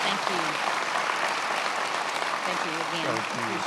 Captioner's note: attendees applauding